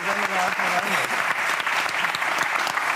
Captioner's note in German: Applaus